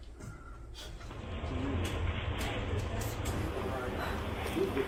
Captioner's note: group chattering